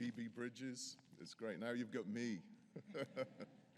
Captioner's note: laughs